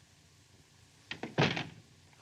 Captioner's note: door closes